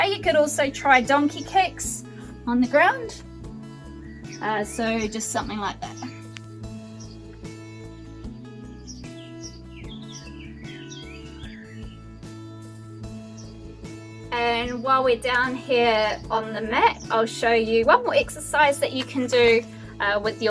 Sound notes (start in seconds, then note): 6.4 birds chirping; 6.4 upbeat music